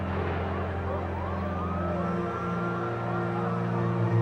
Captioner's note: sirens blaring